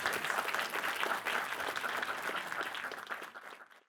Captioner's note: attendees applauding